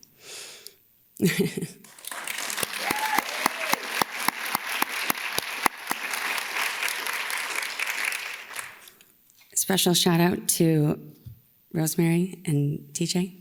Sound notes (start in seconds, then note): 0.2 inhales; 1.2 laughs; 1.8 attendees clap and cheer